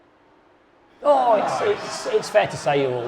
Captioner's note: audience laughing